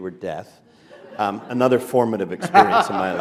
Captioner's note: laughter